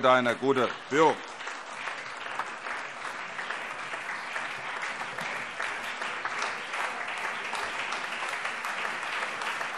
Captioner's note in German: Anhaltender allgemeiner Beifall